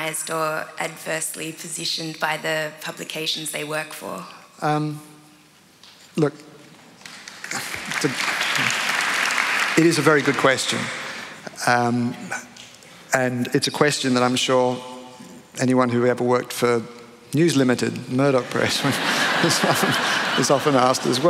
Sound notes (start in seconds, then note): 7.0 applause; 18.5 laughter